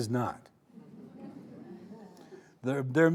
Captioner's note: audience chuckling